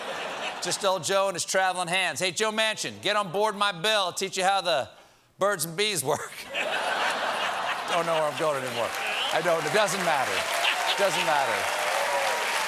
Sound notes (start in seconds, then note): 6.4 laughter